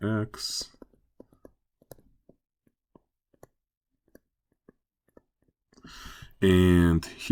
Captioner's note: writing